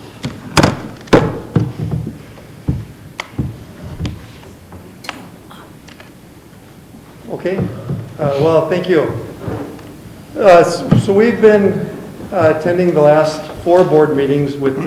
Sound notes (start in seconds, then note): 0.3 banging